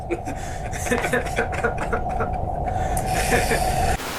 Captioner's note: laughter